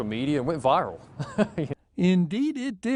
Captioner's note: laughs